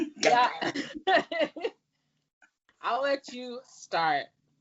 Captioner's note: laughs